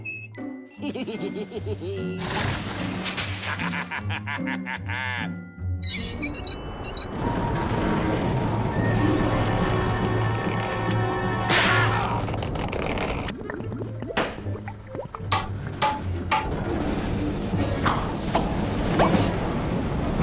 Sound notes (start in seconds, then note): 0.7 chuckles evilly; 3.2 laughing evilly